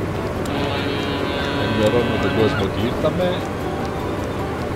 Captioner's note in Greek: Κόρνα!